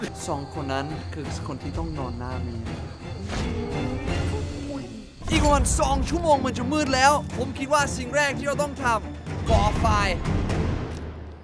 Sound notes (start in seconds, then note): 0.0 laughs; 2.9 scared